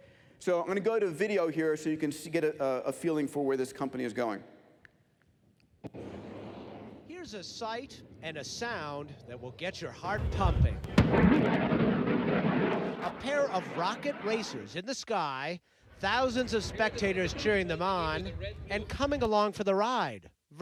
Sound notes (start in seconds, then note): 10.8 rocket engine fires